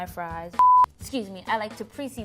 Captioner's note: loud beeping